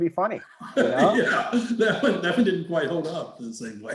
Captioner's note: laughing